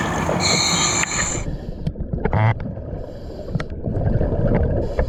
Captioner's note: water bubbling